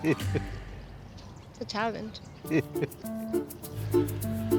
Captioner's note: laughs